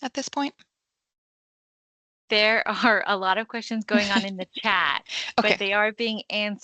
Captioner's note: chuckles